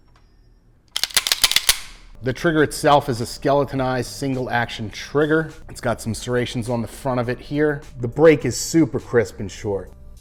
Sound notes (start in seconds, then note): 0.9 gun clicking repeatedly